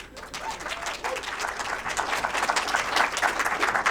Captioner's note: audience clapping